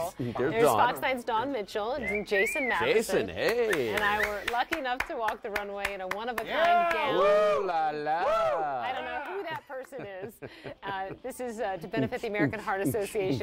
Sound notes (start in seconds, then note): 2.8 voiceover; 3.4 clapping; 4.0 voiceover; 6.5 cheering; 7.4 voiceover